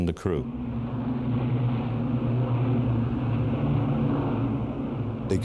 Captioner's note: plane engines rumbling